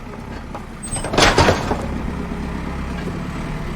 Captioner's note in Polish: the sound of a working excavator